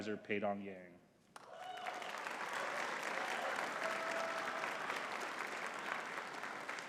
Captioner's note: audience cheering and clapping